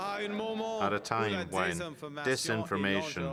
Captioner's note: speaking French